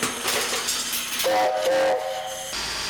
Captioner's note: whistle blows